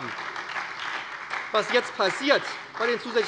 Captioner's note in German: Beifall bei der SPD